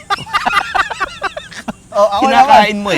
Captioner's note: both laugh